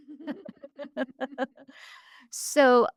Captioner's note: both laughing